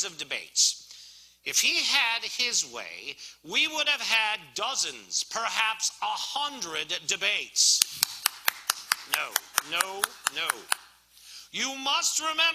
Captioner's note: Lincoln clapping